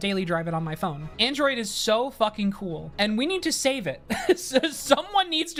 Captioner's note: laughs